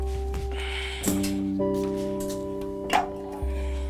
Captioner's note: sigh